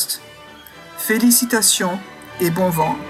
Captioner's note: speaking french